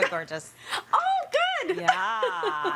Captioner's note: laughs